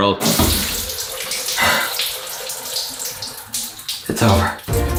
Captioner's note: water dripping; wheezy sighing